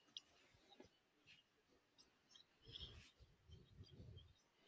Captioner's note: birds chirping